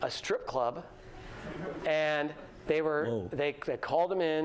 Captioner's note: laughter